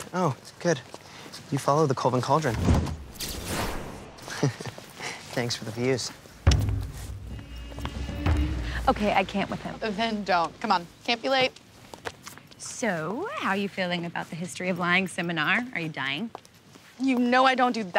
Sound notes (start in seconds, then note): 2.7 whooshing; 4.2 laughs; 6.4 dark atmospheric music